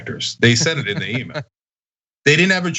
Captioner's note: laugh